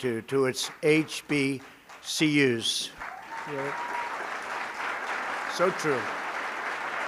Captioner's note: applause